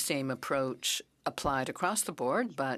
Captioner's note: speaking French